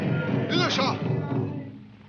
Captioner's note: Indian speaking in foreign language